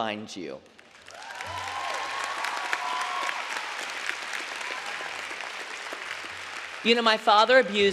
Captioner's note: applause